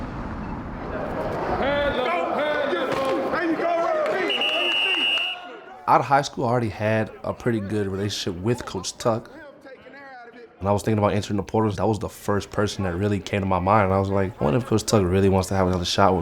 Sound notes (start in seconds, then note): 4.2 whistle blows; 6.4 group chattering